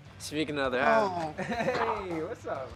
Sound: laugh

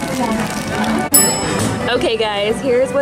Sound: bell chimes

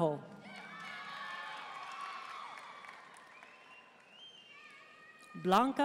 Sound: audience cheering and applauding

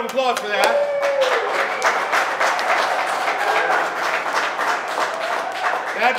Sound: crowd cheering and applauding

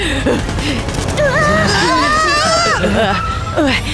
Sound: gunfire; all scream

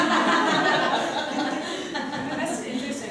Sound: laughing

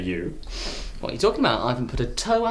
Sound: breathing in

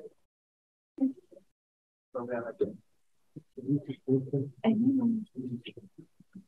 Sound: electronically garbled speaking

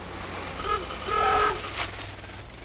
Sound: honking

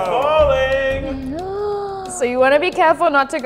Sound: gasps

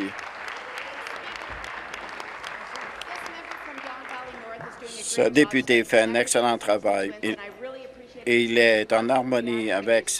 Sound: applause

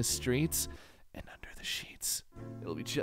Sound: seductive whisper

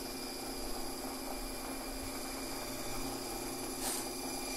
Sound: sound of Tapmatic working its magic

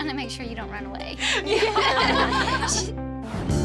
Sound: everyone laughs

